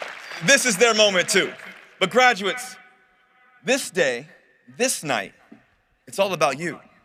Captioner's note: cheering and applause